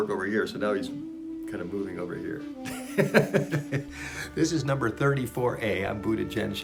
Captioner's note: laughs